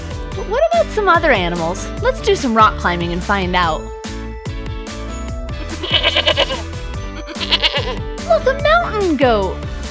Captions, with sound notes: But what about some other animals, let’s do some rock climbing and find out! (Bleating sound) Look a mountain goat.